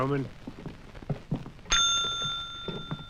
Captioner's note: bell dings